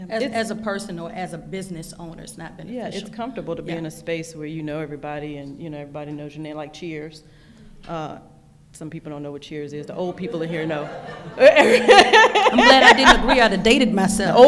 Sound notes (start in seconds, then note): 10.4 laughing